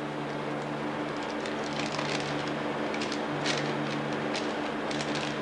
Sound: ventilation blowing; paper unfolding

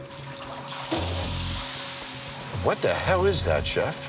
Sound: oil sizzling

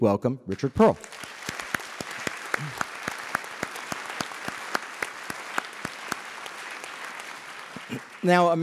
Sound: applause

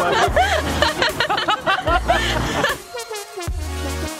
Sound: lauging

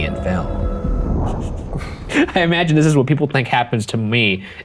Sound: chuckling

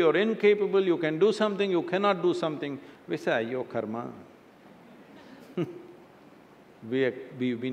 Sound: laughter

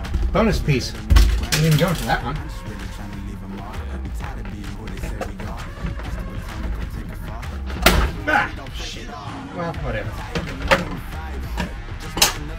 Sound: breaking sound

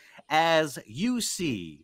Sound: none

